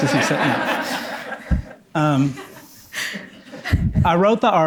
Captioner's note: audience laughing